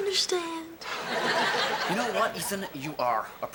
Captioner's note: audience laughing